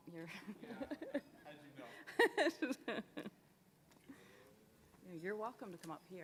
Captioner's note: laughing